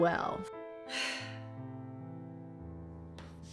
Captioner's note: sigh